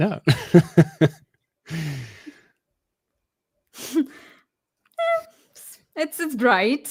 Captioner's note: laughs